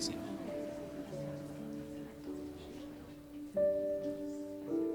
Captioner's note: The Andersons faintly speaking; sentimental music